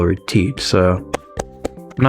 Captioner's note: presses hands together for noise